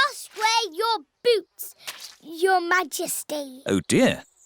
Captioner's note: none